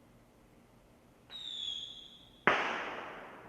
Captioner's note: fireworks exploding